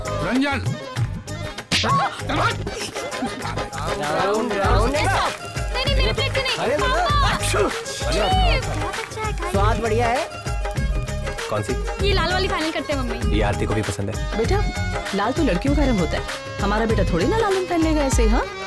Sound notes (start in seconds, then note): 1.8 Laughs; 7.2 Sneezing